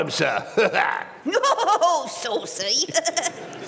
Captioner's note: guffaws; giggles